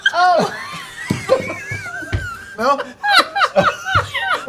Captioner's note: laughter